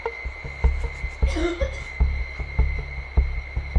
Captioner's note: female coughing from downstairs